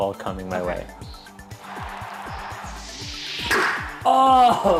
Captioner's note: ball being hit